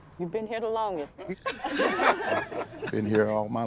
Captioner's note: group laughs